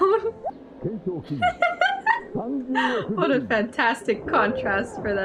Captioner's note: laughs